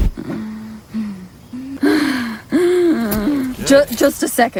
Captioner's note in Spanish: respiración fuerte